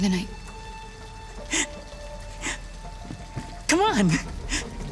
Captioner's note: laughs